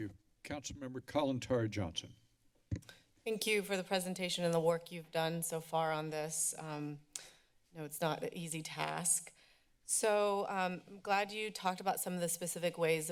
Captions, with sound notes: - Thank you. Councilmember Kalantari-Johnson? [mic thump] - Thank you for the presentation and the work you've done so far on this. [clicks tongue] I know it's not an easy task. So, I'm glad you talked about some of the specific ways